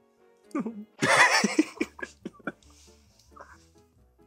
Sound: burst out in laughter

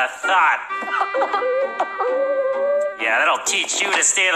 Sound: crying

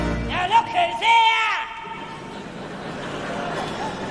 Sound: audience laugh

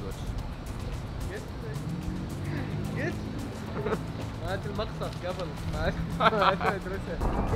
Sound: laughter

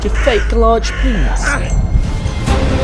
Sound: Blackwood grunts

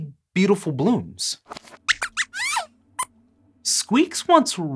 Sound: squeaks squeaks

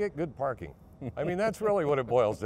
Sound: laughing

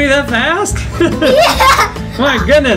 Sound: laughing

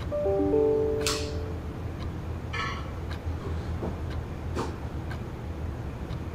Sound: notification rings on laptop

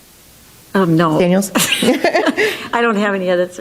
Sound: laughs

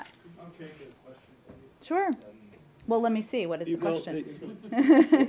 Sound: laughter

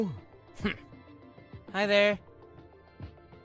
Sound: grumbles

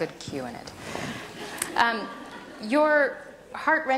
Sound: audience laughter

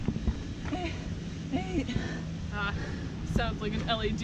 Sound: breathing heavily

